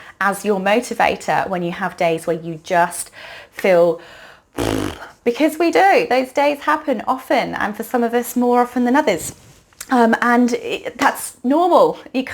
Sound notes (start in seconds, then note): 4.5 blows raspberry